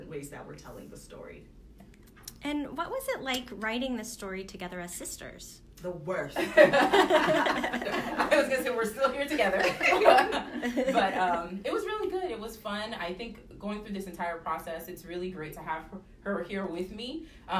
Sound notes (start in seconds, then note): 6.4 laughter